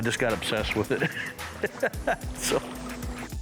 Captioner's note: laughs